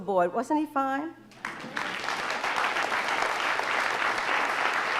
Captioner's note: audience applauding